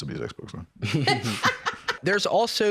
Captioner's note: laugh